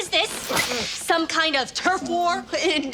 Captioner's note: gasps